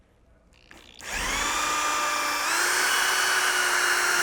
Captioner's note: drill revs